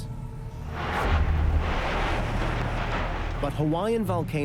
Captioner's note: lava churning